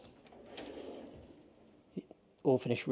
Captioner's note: drawer scraping